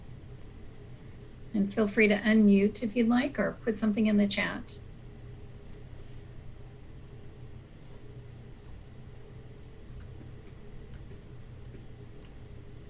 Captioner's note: typing